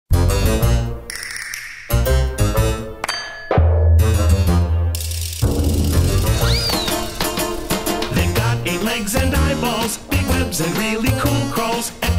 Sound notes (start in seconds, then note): 0.0 playful music; 6.2 slide whistle whistling